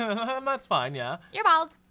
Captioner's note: laughs